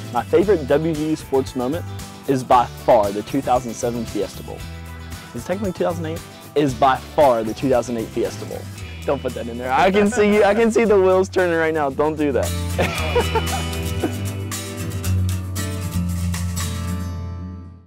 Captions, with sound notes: My favorite WVU sports moment is, by far, the 2007 Fiesta Bowl. Was it technically 2008? Is by far the 2008 Fiesta Bowl. Don't put that in there. I can see the wheels turning right now. Don't do that. (Laughter)